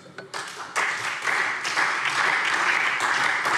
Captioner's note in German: Beifall SPD